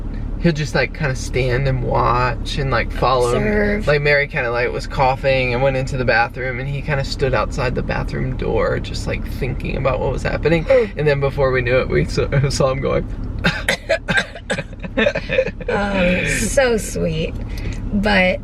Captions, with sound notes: he'll just like kind of stand and watch and like follow... Like Mary kind of like was coughing and went into the bathroom and he kind of stood outside the bathroom door just like thinking about what was happening. And then before we knew it we saw him going... [both fake coughing] Oh, so sweet but...